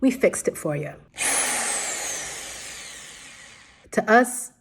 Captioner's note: drill whirring